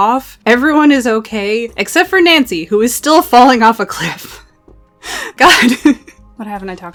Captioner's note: laughs